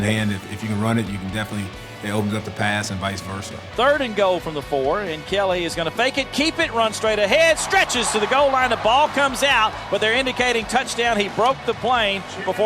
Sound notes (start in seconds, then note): 3.9 voiceover